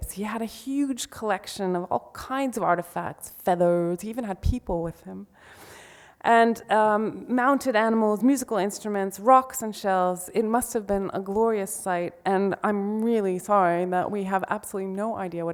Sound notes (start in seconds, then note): none